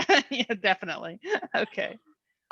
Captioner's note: laughs